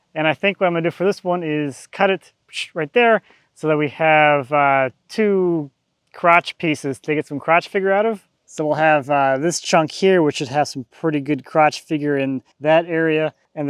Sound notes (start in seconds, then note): none